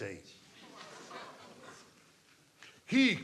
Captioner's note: audience laughing